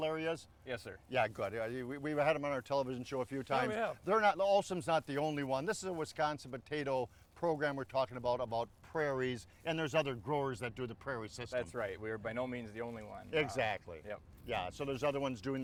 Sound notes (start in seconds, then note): none